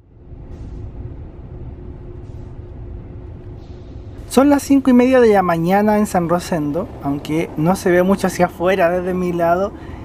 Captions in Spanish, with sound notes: (sonido ambiente en el tren) son las 05:30 de la mañana en ‘San Rosendo’ aunque no se ve mucho hacia afuera desde mi lado